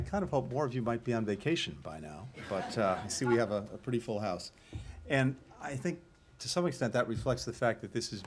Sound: laughter

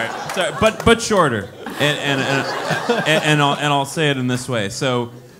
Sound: laugh

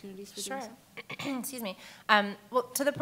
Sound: clears throat

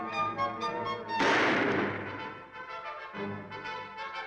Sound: gun fires; dramatic music

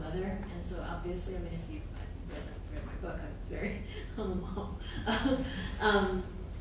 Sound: chuckles

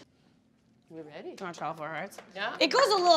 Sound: speaking faintly

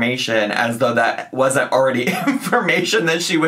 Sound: laughing

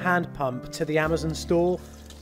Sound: water running

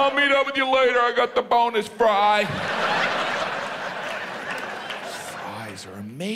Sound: audience laughs

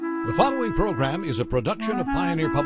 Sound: voiceover

